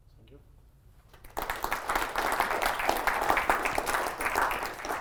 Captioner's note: applause